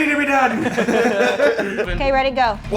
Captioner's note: everyone laughing